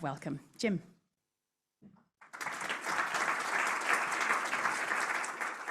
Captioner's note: applause